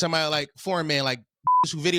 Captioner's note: beep